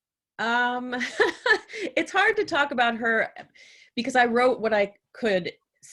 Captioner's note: laughs